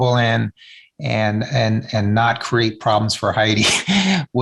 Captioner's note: chuckles